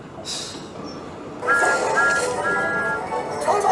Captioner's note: thomas tooting